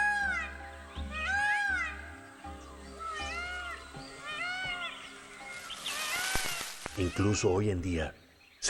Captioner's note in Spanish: graznidos